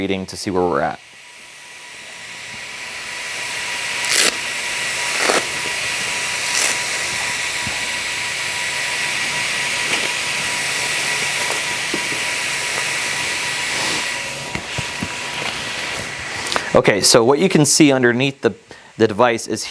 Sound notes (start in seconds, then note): 2.8 machine whirring